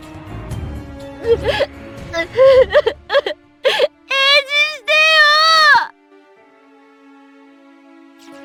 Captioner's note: cries